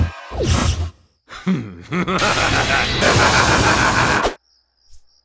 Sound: evil laugh

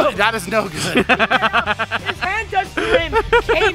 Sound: laughs

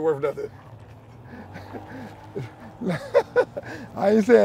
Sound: laughing loudly

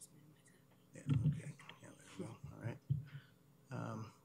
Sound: whispering

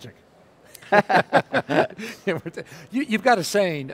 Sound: laughing

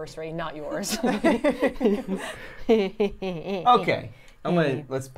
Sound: laugh

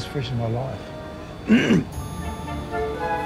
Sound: clears throat

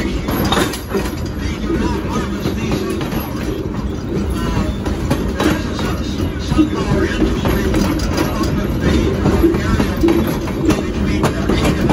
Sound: wheels clacking down the track

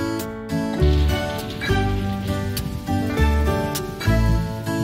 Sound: faint thunder

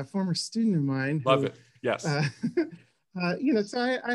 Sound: laughs

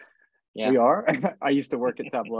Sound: laughs

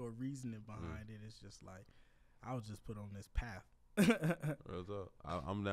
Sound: laughs

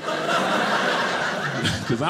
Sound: audience laughing

